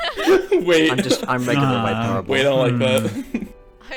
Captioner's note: everyone starts laughing; some more laughs